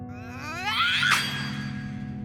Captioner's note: Matilda screams